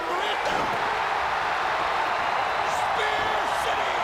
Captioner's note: crowd cheering